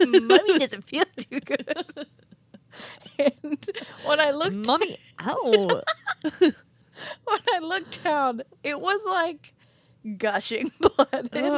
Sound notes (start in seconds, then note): 0.0 both laughing; 5.3 both laughing